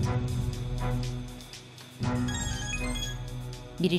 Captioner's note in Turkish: Telefon zili sesi